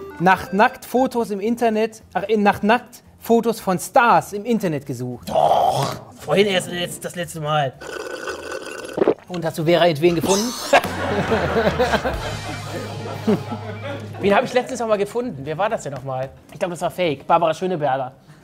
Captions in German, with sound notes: Doch! Vorhin erst das letzte Mal. (Schlürfen) Und, hast du Vera Int-Veen gefunden? (Lachen) Wen hab ich letztes Mal gefunden? Wer war das noch mal? Ich glaub, das war fake, Barbara Schöneberger.